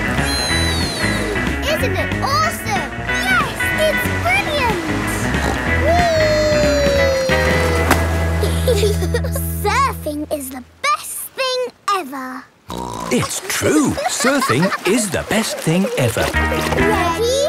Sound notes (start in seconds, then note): 5.1 snorts; 8.4 giggle; 12.7 snorts